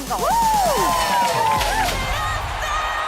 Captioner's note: cheerleaders cheering; upbeat music